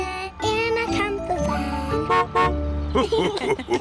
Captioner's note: horn honks; laughter